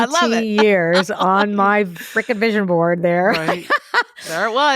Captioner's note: laughs